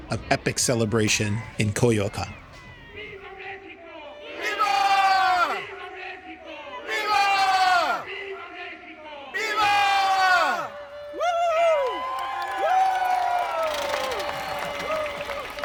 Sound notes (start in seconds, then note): 4.5 crowd; 7.0 crowd; 9.7 crowd; 12.0 crowd cheering